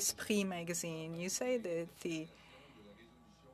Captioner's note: speaking French